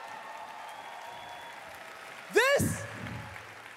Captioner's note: applause